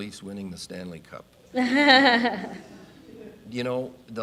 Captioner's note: audience laughing